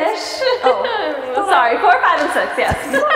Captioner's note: laughing; hands slapping